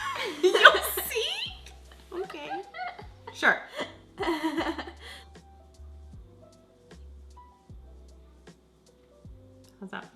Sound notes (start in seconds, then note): 0.0 laughs; 6.4 soft electronic music